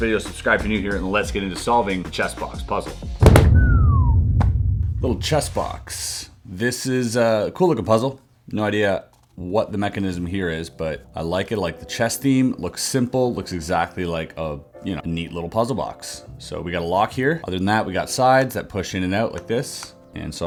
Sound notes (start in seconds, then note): 3.4 descending whistle